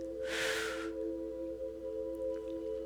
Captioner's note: sighs